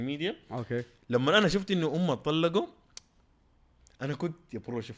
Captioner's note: tsks